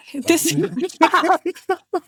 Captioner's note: laughing